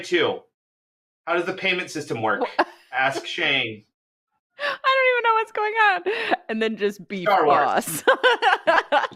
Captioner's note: laughter